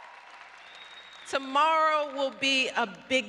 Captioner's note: applause